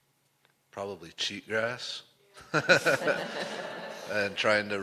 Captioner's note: laughter